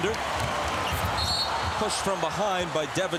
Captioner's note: whistle blows